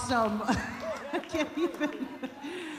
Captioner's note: laughs